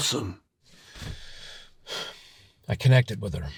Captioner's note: sighs